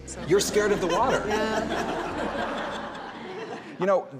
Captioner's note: crowd chuckles